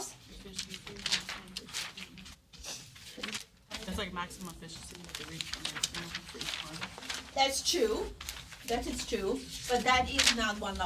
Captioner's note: student murmur